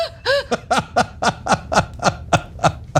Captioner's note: laugh